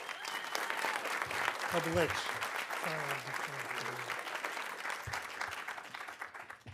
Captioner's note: audience cheering; audience applauding